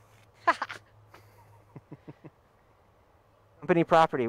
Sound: laughing

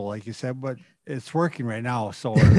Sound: laughing

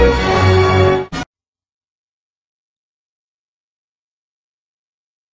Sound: silence

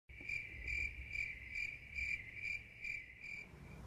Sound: crickets chirping

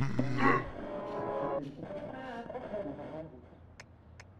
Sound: grunts; loud TV sounds

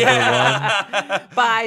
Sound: laughing

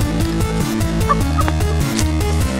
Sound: laughing from behind the camera

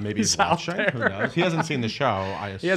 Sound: laughing

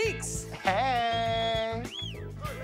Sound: man wolf-whistling

